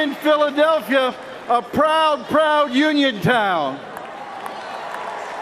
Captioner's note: cheers and applause